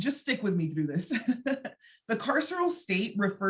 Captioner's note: chuckling